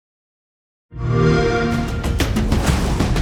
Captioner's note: xbox sound; dramatic music playing